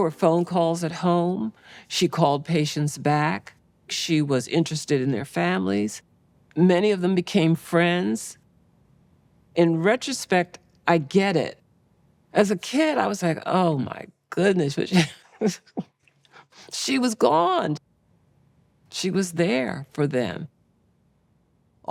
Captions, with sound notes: There were phone calls at home. She called patients back. She was interested in their families. Many of them became friends. In retrospect, I get it. As a kid, I was like, "Oh my goodness." (laughs) She was gone. She was there for them.